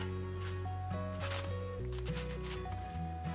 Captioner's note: thwop